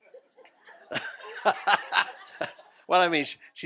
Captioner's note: laughter